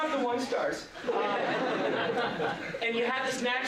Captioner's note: laughter